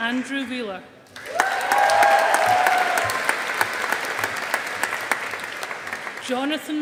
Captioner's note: audience applauding